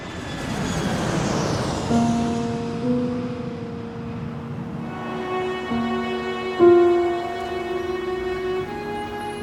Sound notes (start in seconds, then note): 0.7 engine roaring; 1.8 light orchestral music